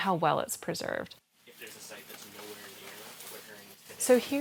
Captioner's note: background chatter